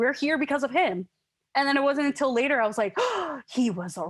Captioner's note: gasps